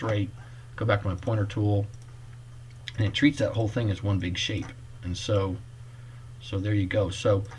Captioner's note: click